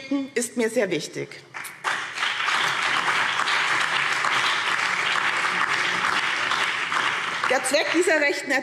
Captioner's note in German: Beifall BÜNDNIS 90/DIE GRÜNEN, CDU, SPD und DIE LINKE